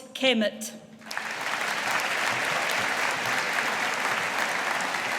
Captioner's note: audience applauding